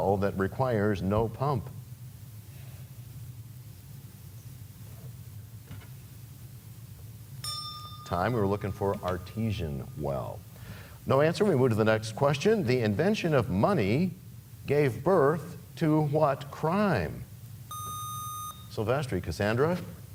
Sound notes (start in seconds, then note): 7.4 bell rings, time expires